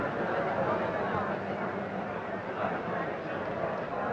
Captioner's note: group chattering